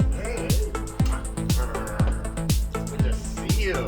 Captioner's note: kisses